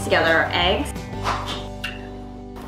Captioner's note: cracking egg